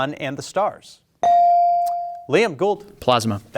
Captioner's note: bell ringing